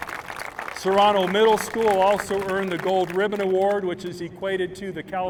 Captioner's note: applause